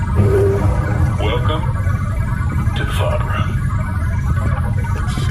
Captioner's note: dramatically